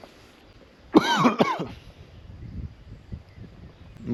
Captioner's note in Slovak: kašeľ